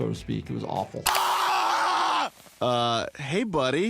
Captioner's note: Stewie screaming